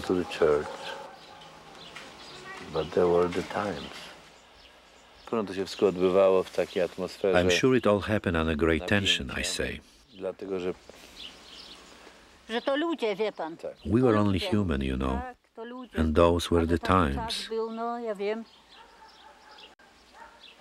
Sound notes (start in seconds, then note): 2.7 speaking Polish